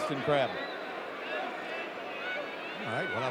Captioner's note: audience cheering